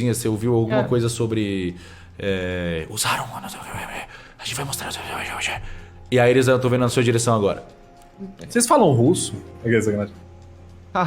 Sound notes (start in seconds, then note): 2.9 Cellbit's whispers